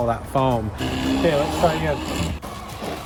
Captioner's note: motor whirring